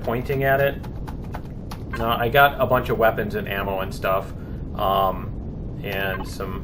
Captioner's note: keystrokes